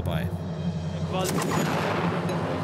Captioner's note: gunshots